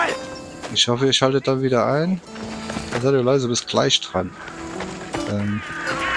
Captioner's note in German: schreien